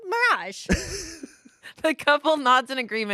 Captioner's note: laughs